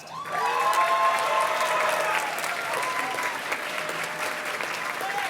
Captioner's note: audience cheers and claps